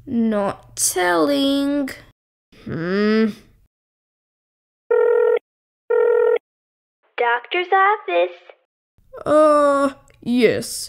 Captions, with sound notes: Not telling... Hmmm! (Dialling) Doctor's office Ah, yes